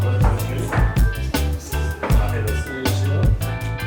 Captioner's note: in Turkish